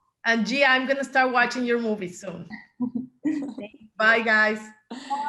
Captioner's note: chuckles